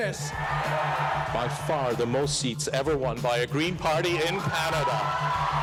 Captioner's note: cheers and Applause